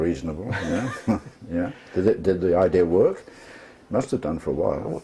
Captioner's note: laugh